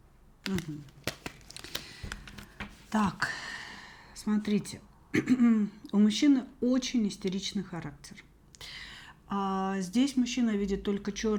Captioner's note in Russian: откашливается